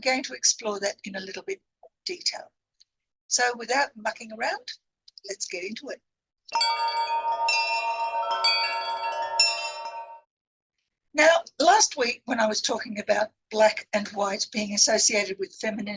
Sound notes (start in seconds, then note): 6.5 chimes